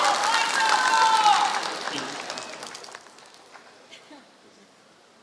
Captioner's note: applause